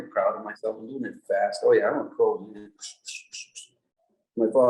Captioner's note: making sounds to signify the speed shwi shwi shwi